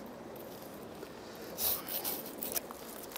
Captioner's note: cutting sounds